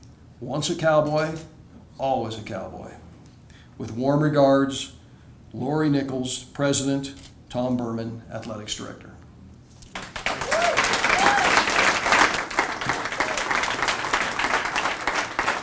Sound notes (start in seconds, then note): 9.9 audience applauding